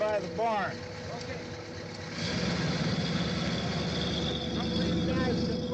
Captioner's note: car engine running